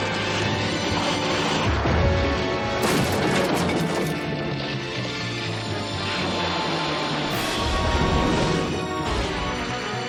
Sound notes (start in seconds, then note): 5.3 wood creaking